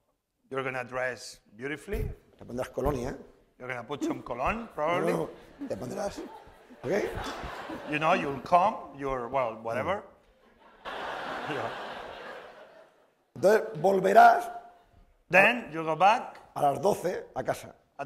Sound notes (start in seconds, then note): 2.7 speaking spanish; 6.6 speaking spanish; 10.4 laughter; 14.2 speaking spanish; 17.1 speaking spanish